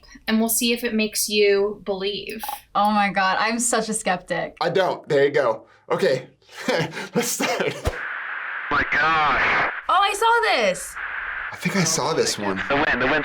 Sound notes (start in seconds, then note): 6.5 laughs